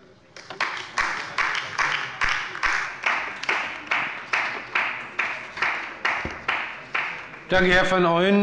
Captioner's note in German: Beifall bei der LINKEN